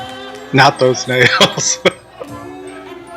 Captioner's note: laughing